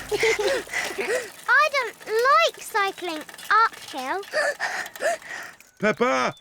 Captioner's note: blows raspberry and giggles; panting